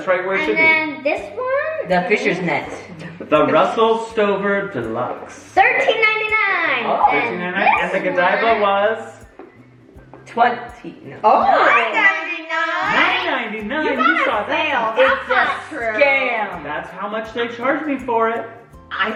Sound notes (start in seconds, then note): 3.0 mom laughs